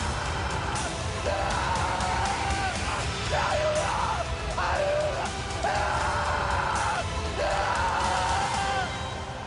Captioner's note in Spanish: Alaridos de Gabino